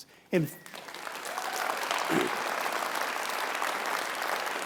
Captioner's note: audience applauding